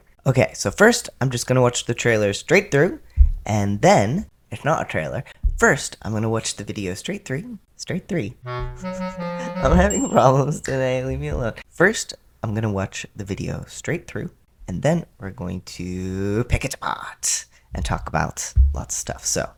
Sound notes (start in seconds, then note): 9.1 laugh